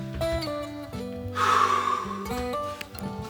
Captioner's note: sighing